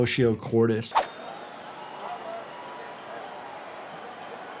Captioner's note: people chatter